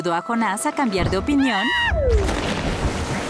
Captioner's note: screaming